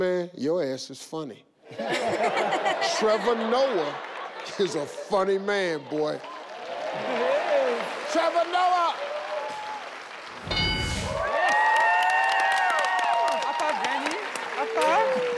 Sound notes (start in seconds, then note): 1.7 audience laughing; 6.4 audience cheering; 11.0 audience cheering